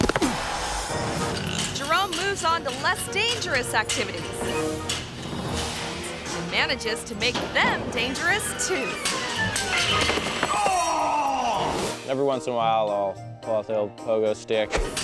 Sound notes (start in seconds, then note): 0.0 biker thuds; 0.1 biker groans; 4.4 tense playful music; 9.0 pogo stick clatters; 10.0 thuds; 10.5 groans